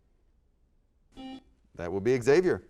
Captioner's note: buzzer sounds